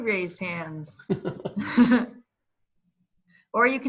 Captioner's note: laughter